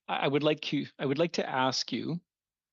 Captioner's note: speaking French